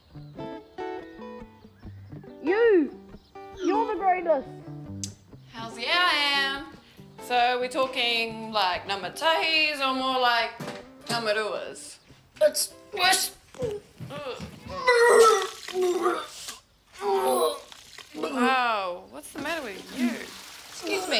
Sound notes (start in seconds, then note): 14.7 retching